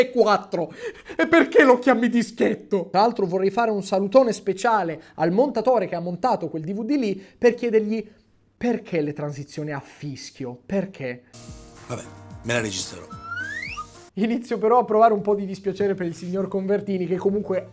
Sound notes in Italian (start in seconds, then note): 12.8 fischio dalla bocca